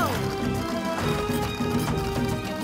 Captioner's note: carts rumble